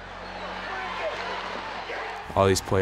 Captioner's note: crowd cheering